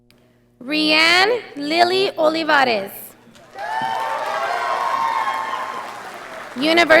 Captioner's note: audience applauding